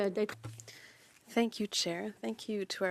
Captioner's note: speaking French